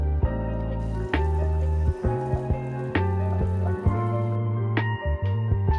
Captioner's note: boiling sound